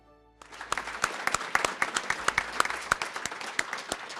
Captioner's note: crowd applauding